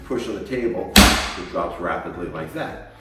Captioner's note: table pops